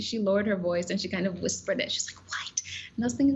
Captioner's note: whispering